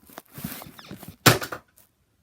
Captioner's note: bed squeaks